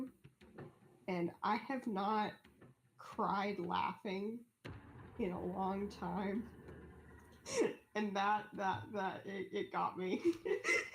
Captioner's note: giggling